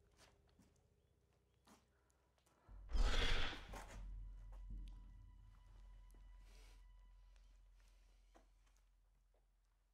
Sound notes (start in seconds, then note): 2.9 dinosaur growls